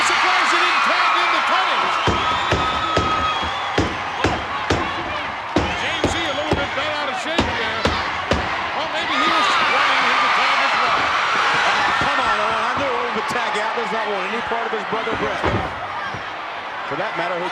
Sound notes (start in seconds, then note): 1.9 hand thudding